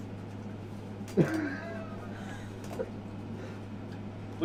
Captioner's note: laughter